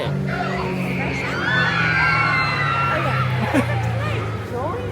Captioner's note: guests screaming; chuckles